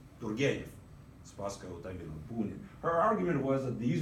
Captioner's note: speaking in Russian